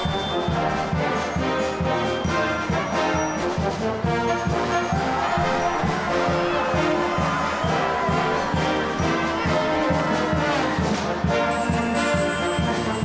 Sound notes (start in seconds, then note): 6.5 cheers and applause; 11.6 band continues